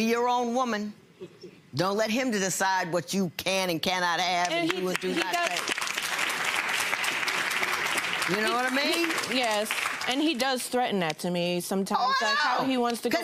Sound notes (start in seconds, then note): 4.9 audience applause drowns out